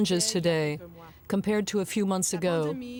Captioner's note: speaking French